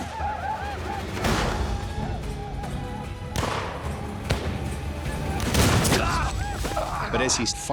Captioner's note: gunfire, yelling